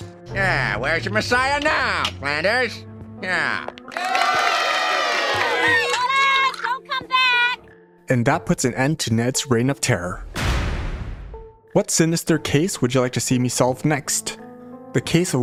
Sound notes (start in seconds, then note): 3.9 cheering